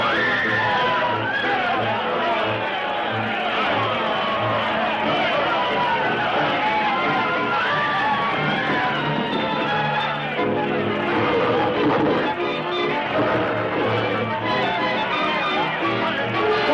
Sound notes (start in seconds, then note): 0.1 crowd screams; 11.3 gorilla snarls